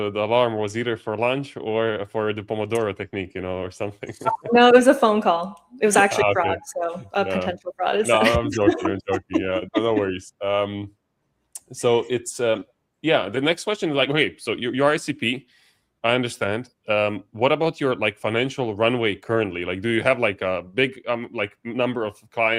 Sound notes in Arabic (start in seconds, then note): 12.7 ضحك